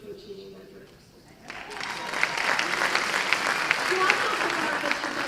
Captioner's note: applause